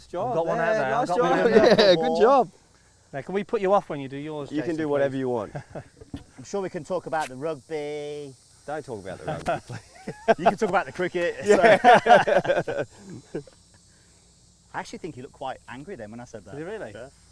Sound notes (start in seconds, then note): 11.3 laughs; 11.4 everyone laughing